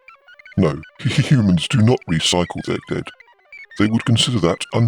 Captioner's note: laughs